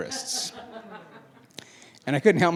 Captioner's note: laughing